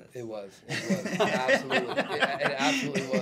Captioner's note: laughs